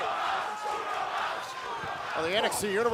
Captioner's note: fans chanting